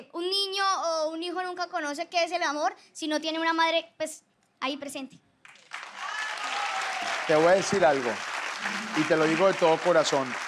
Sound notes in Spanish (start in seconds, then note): 5.4 Aplausos; 5.9 Gritos